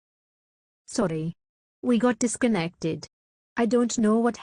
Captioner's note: voiceover